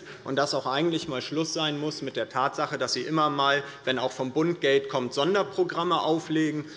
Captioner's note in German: none